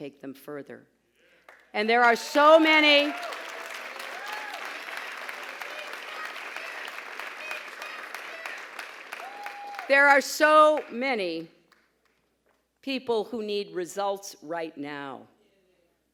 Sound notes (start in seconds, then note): 4.3 pause, applause